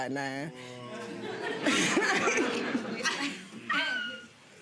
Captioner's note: audience laughing